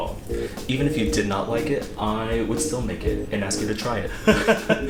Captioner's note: laughter